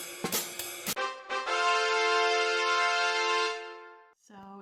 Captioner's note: triumph sound effect